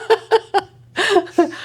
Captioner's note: laughing